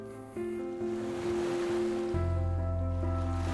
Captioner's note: waves crashing